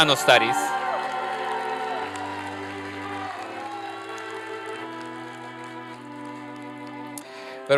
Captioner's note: applause and cheering